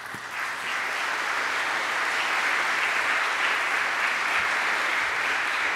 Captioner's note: applause